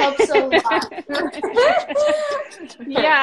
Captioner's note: all laughing